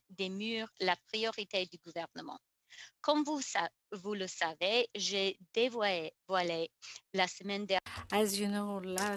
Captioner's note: speaking FRENCH